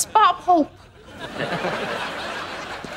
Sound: chuckles

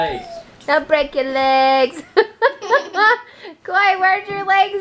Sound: laughs

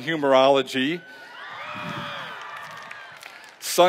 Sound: cheering

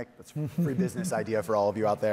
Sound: chuckles

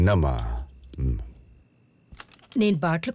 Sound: night Ambient Sound

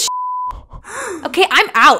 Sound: gasping

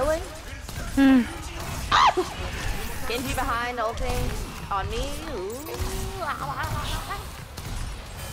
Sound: funny danger noises

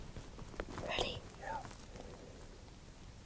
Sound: whispering

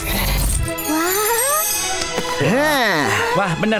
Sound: gasping

